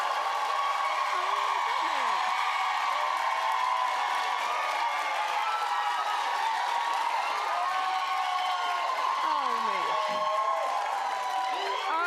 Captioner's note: cheering and applause